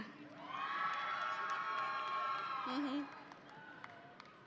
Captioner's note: audience cheering